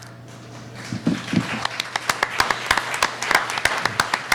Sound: applauding

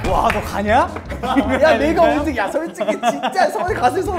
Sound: hahahahahaha

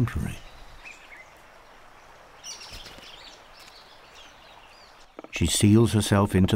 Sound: birds chirping

